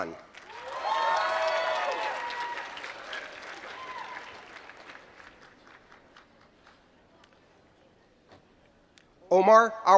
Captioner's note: applause